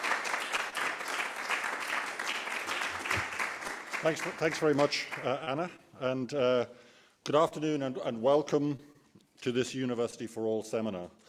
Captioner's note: applause